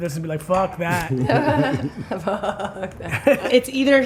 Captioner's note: laughs